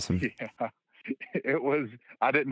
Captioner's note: laughter